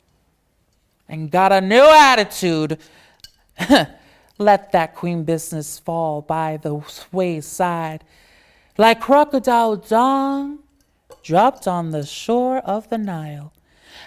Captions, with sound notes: and got a new attitude. (chuckles) Let that queen business fall by the wayside. Like crocodile dung dropped on the shore of the Nile.